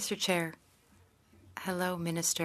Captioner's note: speaking French